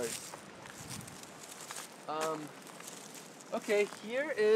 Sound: rustling sounds

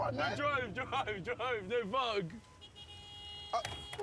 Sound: horns blaring

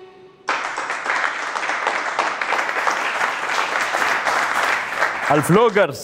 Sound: clapping

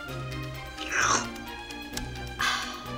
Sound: slurping; exhales

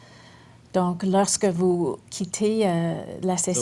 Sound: speaking French

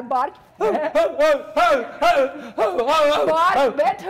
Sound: doctor loudly barking

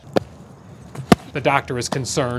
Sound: ball thuds

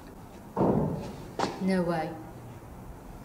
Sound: bangs

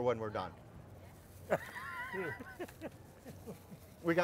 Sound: laughs

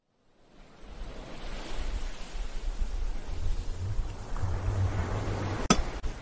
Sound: ocean sounds; pickaxe hits stone

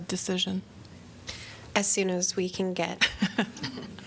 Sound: laughter

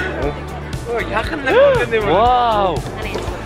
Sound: exclamation

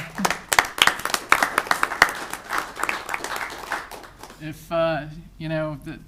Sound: audience applauding

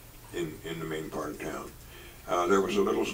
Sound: none

